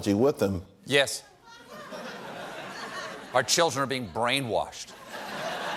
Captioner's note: laughter